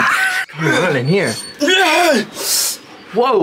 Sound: grunting

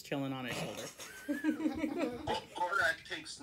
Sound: various laughter

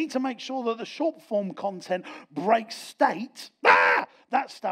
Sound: shouts

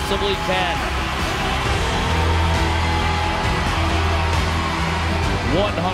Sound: crowd cheering

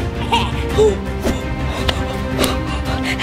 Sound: Bigfoot laughs; laughs; gasps; pants heavily

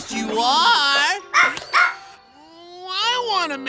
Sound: barking

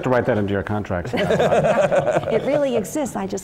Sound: laugh

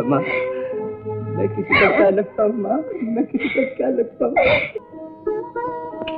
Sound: crying

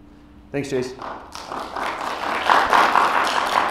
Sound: clapping

